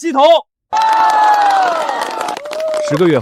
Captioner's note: cheers